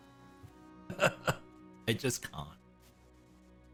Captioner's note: sentimental chuckle